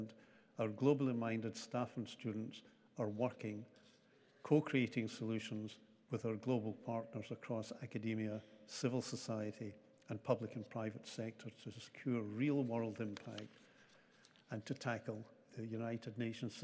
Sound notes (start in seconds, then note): none